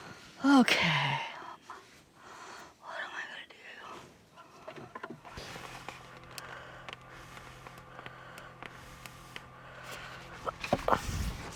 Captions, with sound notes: OK [whispers] What am I going to do?